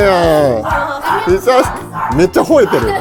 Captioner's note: bark, bark, bark, bark